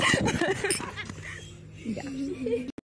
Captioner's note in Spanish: Risas